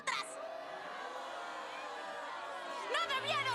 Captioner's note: crowd booing